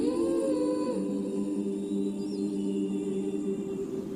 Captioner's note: melancholy vocalization